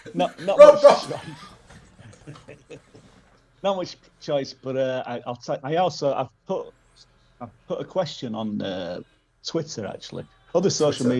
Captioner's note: laughter